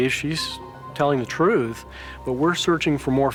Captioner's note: none